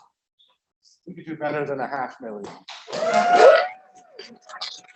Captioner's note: applause